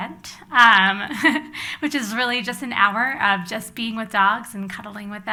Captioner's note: laughs